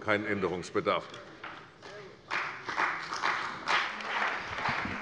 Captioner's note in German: Beifall bei der CDU und dem BÜNDNIS 90/DIE GRÜNEN